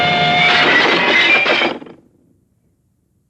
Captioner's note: clattering